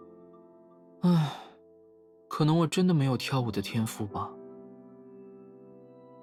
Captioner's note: sigh